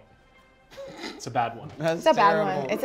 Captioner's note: laughter